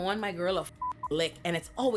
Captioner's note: beep